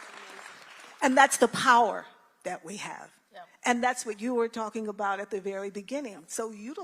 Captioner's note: applause